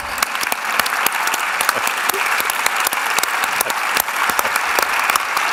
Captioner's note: applause